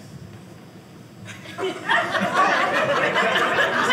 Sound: audience laughing

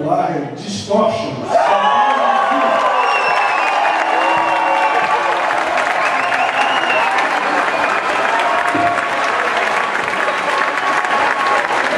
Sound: applause

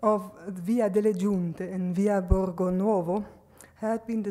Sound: speaks foreign language

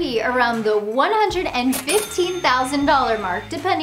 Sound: cash register dings

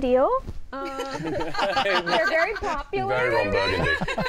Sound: all laughing

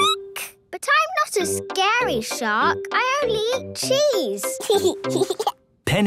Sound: squeaking; giggling

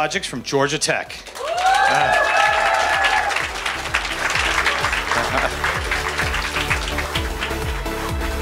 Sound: applause

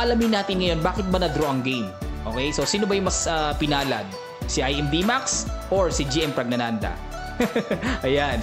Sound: laughing

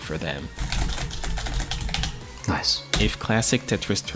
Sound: keys rapidly clacking

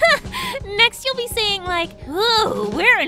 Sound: inhale

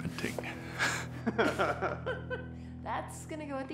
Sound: laughter

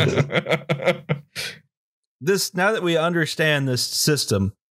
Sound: laughter

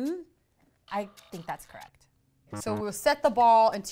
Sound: buzzer sounds

